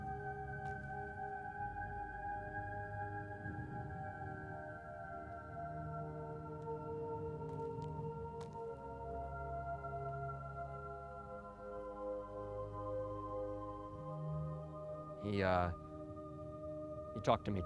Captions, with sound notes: (footsteps patter) - He, he talked to me too.